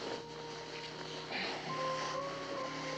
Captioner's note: Mac sighing